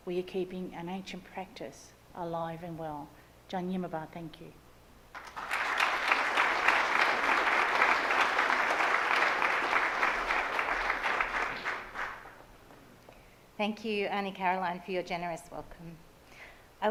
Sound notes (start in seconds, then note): 5.1 audience applauds